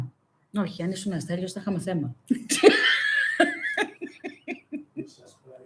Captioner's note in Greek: γέλια